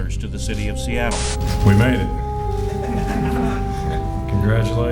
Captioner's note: laughter